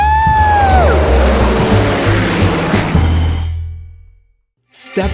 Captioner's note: plane engine revs